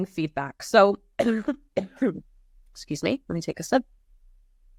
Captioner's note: coughs